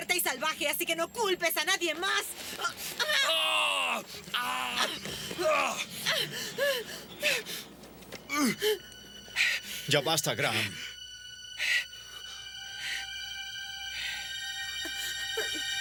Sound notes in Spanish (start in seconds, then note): 3.2 Graham grita; 11.5 respirando pesadamente